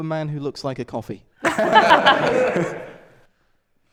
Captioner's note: laughter